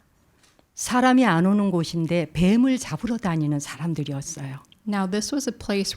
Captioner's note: speaking in Korean